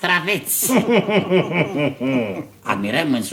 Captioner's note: evil laugh